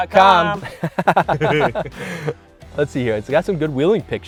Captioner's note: laughter